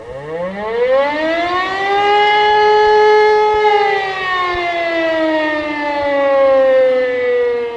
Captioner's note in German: sirenenalarm